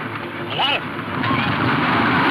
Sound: horses galloping

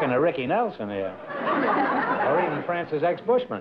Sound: laughter

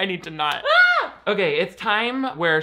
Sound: squeals

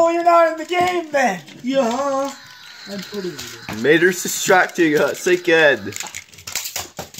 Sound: Mater Screaming

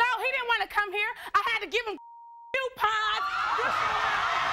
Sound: beep

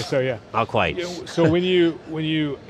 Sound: laughs

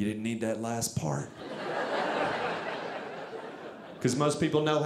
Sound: audience laughing

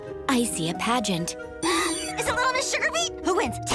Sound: gasping

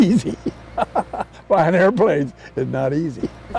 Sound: laughter

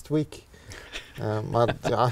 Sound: chuckles

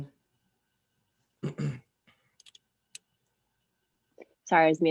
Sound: clears throat

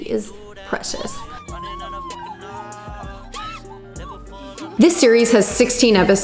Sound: girls squealing

